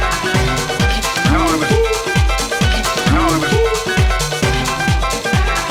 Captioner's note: respawn gero alert